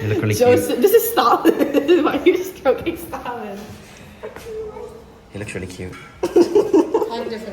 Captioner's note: laughter